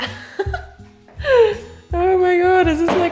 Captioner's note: giggling